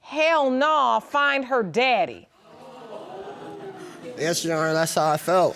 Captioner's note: audience gasps